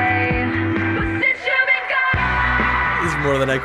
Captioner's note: audience cheers wildly